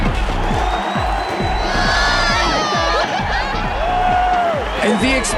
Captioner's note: crowd cheering